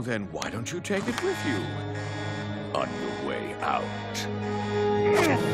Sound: alarm blaring

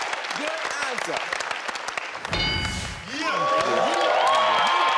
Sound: audience cheers

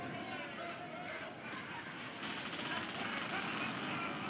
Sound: crew laughing

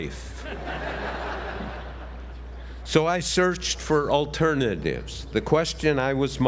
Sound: laugh

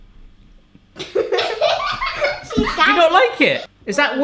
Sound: laughter

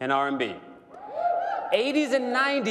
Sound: cheering

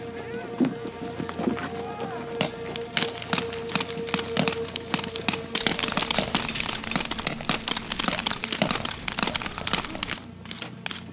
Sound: gunfire

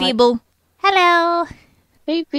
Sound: in a silly voice

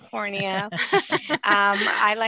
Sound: laughter

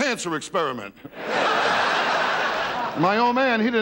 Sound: laughing

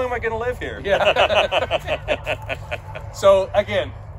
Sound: laughs

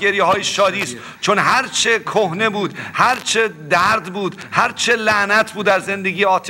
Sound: speaking in foreign language

